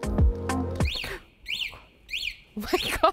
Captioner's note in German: Sirene